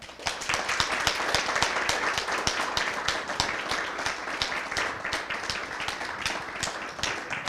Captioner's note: applause